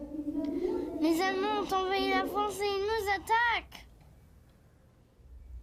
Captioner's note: speaks in foreign language